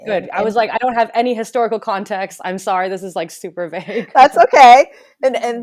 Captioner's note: both laughs